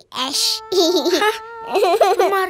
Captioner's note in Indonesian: tertawa